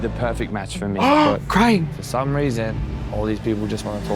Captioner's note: gasps